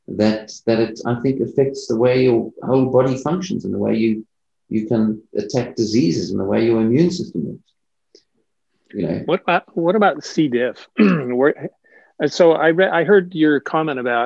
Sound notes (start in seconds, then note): 10.9 clears throat